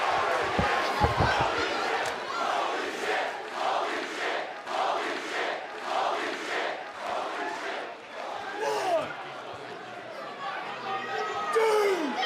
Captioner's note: fans chanting